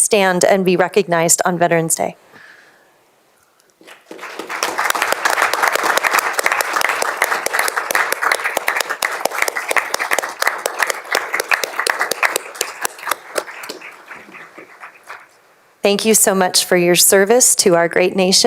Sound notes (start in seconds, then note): 7.8 applause